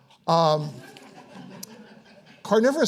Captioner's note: audience laughing